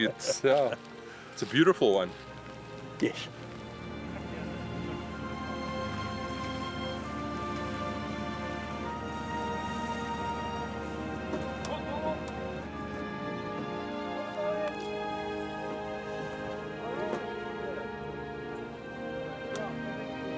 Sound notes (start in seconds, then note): 4.2 somber classical music continues; 11.8 worker shouting; 15.9 somber classical music continues